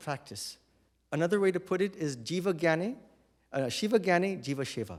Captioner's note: non-english